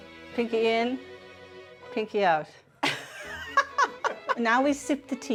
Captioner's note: laughing